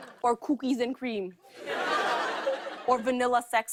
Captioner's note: laughter